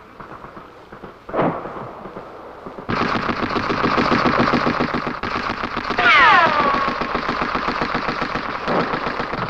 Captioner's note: gun shots